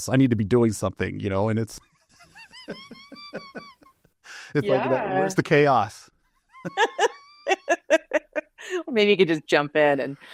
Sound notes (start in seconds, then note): 6.4 both laugh